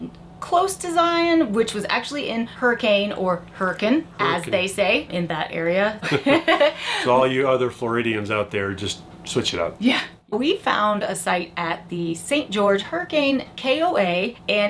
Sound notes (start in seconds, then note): 6.0 both laughing